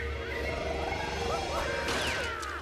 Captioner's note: growling; screaming